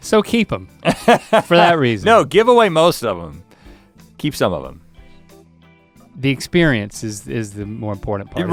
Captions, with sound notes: - So keep 'em, (laughs) for that reason. - No, give away most of them - Keep some of them... - The experiences is the more important part?